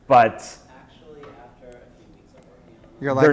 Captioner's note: voiceover